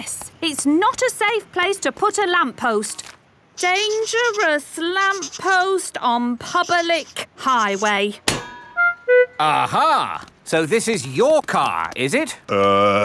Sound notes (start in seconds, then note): none